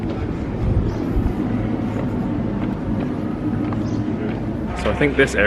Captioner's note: wind gently blowing